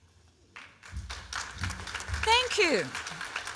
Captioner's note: applause